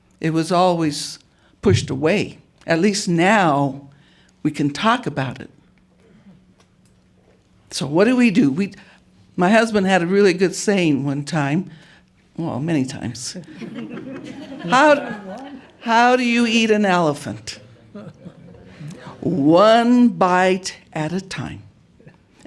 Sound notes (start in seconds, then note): 13.4 laughter